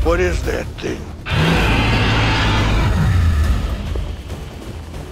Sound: dinosaur roars; suspense music

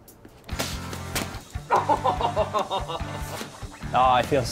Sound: laughing

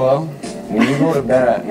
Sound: laughs

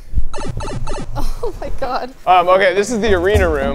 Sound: upbeat music; laughing

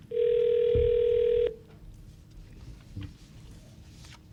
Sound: dialing; phone ringing

